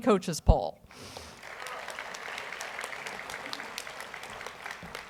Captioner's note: audience applauds